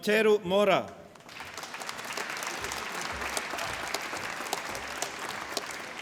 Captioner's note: applause